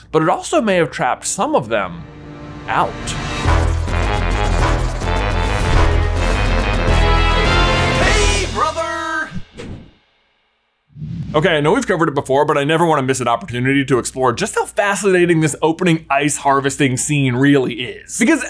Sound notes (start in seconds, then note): 1.7 dramatic upbeat music; 10.9 logo whooshing